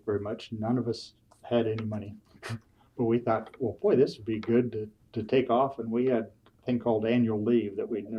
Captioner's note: laughs